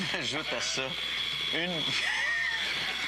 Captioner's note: rires